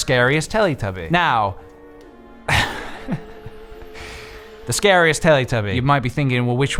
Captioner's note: laughs